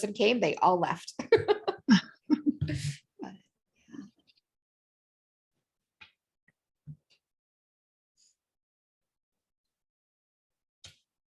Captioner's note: laughter